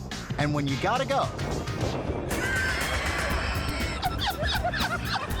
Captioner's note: upbeat music; friends laughing